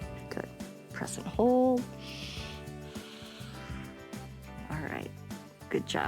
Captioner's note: inhales and exhales